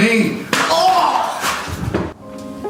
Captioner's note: book thuds; gentle music